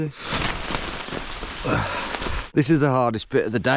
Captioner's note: paper rustling